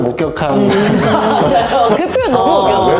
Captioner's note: laughs